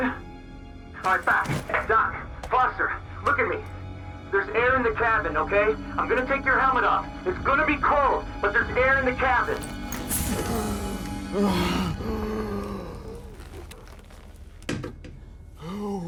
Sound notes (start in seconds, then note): 10.3 gasping